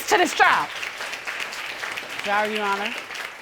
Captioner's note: applause